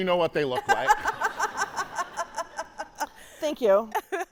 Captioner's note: laughing